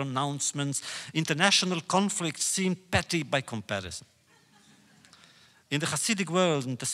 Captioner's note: laughter